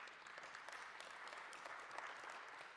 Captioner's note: applause